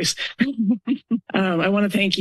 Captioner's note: laughs